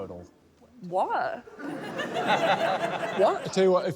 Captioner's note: laughter